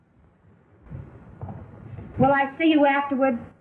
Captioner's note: footsteps